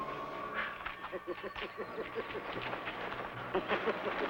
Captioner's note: laughing